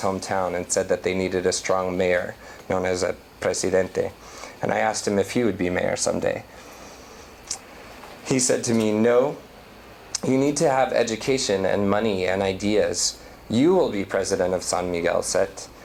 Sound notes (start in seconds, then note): 3.3 non-english